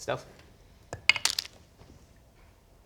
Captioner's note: dice splat